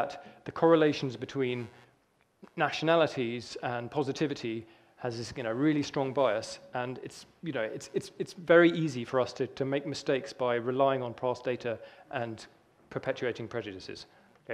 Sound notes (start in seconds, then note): none